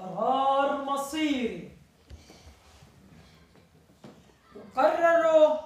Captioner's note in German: spricht arabisch